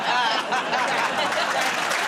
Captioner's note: laughter